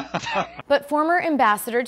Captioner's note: laughter